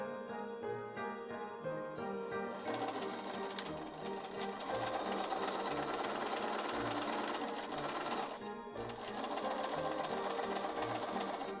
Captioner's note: sewing machine whirrs